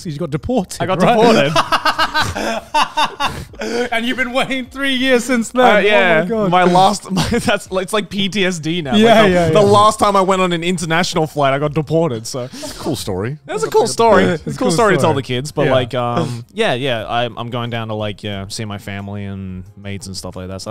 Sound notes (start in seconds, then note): 1.9 cackling